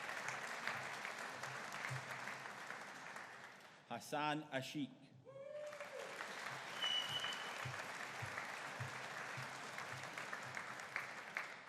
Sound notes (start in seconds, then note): 5.4 audience cheering